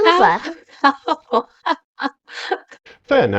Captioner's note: laughs